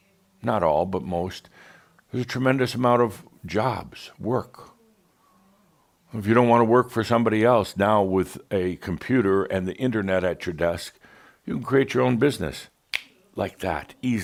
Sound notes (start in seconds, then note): 12.9 snap!